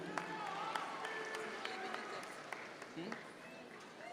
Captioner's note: audience members cheer